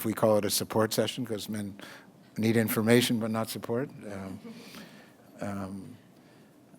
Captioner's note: audience laughter